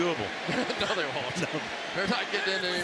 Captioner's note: laughs